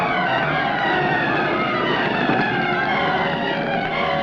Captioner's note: flames roaring